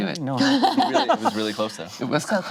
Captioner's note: laughing